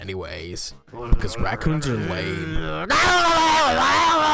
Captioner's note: AJ's raccoon starts growling